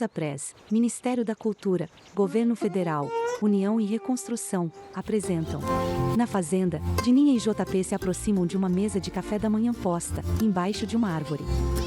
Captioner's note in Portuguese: Pássaros